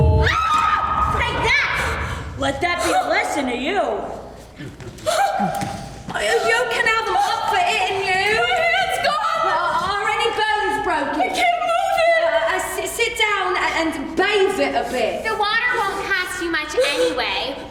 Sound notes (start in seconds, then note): 0.1 screaming